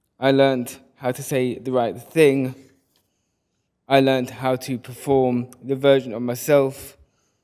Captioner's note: none